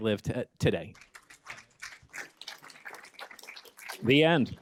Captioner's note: applause